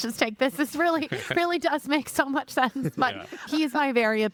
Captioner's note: laughing